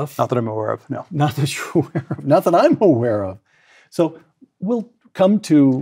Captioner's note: laugh